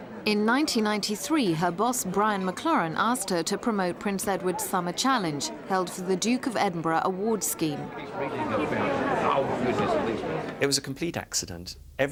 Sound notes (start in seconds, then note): 8.2 crowd murmuring